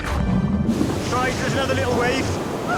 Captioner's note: water gurgles